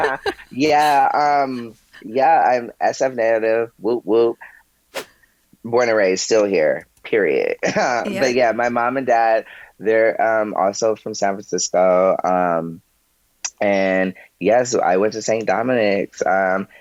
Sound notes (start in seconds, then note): 7.6 chuckles